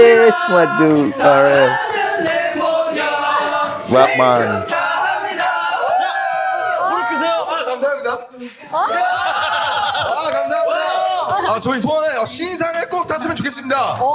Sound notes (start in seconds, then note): 2.9 cheer